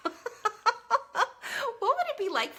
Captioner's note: laughs